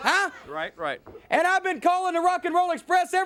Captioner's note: crowd chatter